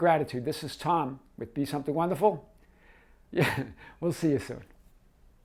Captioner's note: chuckles